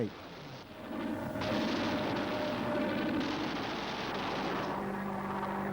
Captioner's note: humming, vibrations, explosions